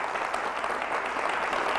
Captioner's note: applause